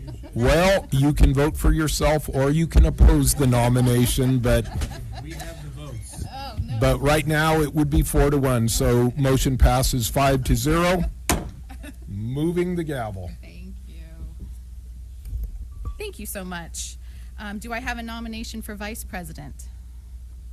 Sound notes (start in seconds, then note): 3.0 laughter